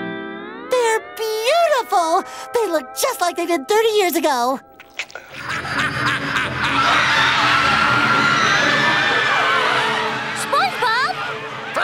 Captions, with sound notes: They're beautiful. They look just like they did 30 years ago. [laughing] [screaming] SpongeBob!